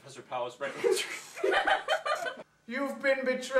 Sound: laughter; busts up

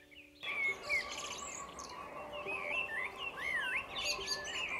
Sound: birds twitter

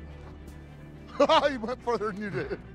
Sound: laughs

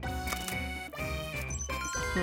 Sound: chiming; chuckling; whirring

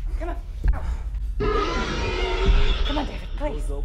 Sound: Red Sister screams

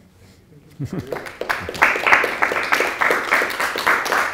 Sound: applause

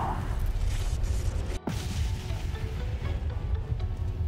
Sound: explosion

